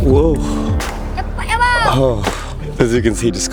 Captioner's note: foreign language